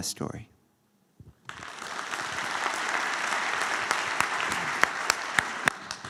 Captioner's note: applause